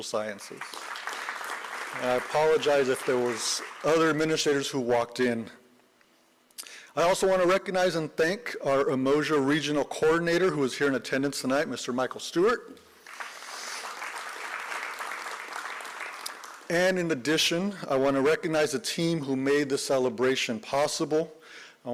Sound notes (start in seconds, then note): 13.0 applause